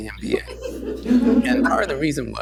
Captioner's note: laughter